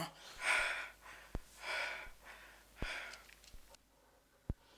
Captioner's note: breathing heavily